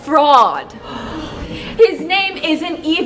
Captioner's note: crowd gasps